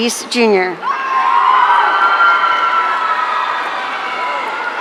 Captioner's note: audience cheering